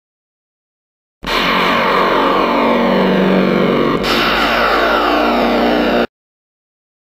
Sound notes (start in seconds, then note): 1.2 sound of alien dark atmosphere